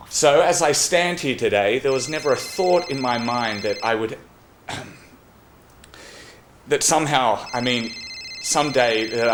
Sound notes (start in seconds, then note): 1.9 phone continues to ring; 4.6 clears his throat; 7.1 phone still ringing